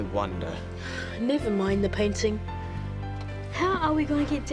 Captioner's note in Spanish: suspira